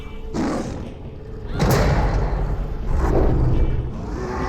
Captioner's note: growls; roars